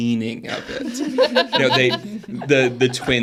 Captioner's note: participants laughing